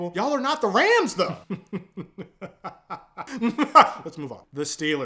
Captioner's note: diabolical laughter